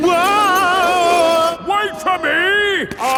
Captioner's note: yelling